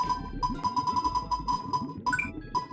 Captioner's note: faster typing